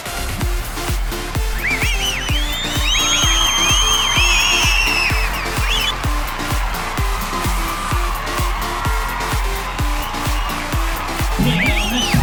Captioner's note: applause